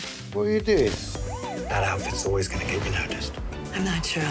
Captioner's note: sirens wail